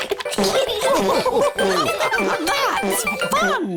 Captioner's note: giggles; laughter